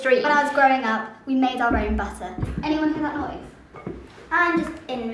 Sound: dull low-pitched clacking

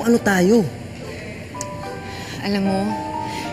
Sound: Edong clicks tongue

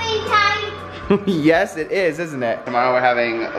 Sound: laughs

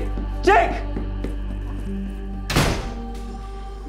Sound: footsteps tapping; door slamming

